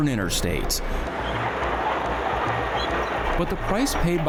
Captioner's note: traffic rumbling